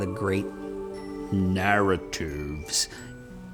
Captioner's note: in deep voice